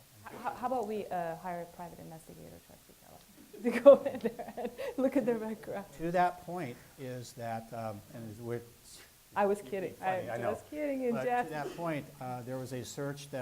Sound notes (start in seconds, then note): 3.4 laughs